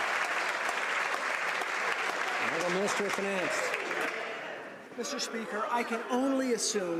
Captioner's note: some Applause